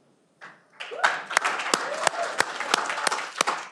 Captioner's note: cheering